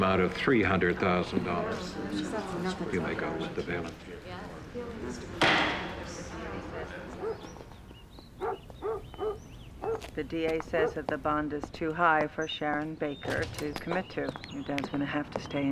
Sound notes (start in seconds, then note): 0.2 crowd murmurs; 5.3 gavel bangs; 5.4 dog barks in distance